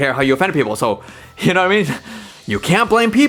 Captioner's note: chuckles